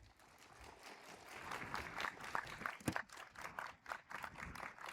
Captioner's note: audience applauds